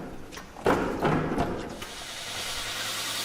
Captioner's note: clattering